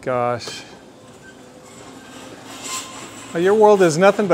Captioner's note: gate squeaking